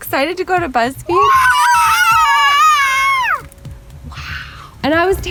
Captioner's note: cheering